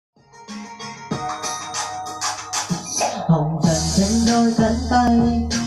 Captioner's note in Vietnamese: chuông